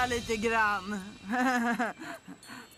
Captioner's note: chuckling